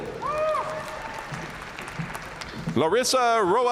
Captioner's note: audience cheering and applauding